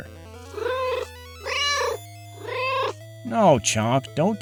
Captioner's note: meow